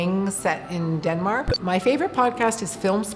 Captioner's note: beep